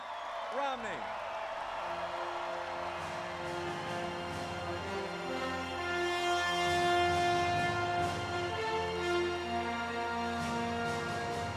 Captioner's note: applause, Music